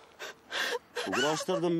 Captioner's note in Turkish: Ağlıyor